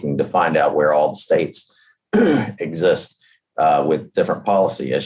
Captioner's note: clears throat